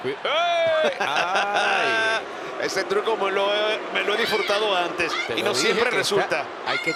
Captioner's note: laugh